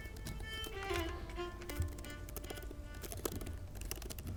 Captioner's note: keyboard sounds